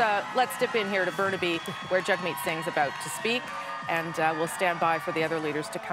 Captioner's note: cheers and applause